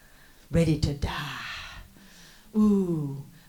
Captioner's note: dramatic whisper